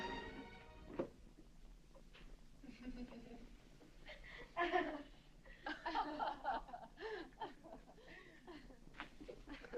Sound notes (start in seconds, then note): 4.6 rebecca laughing